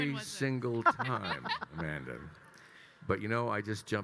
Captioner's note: attendees laughing